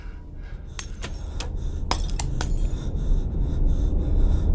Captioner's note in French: bruits de lampes qui se cassent